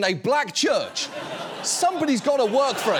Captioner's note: audience laughs